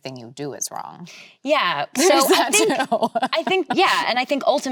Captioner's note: laughs